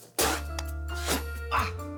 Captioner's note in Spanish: Ruido al escupir